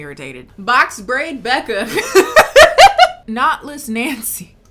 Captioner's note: laughing